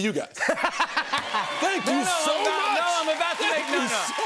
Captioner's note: laughs; cheers and applause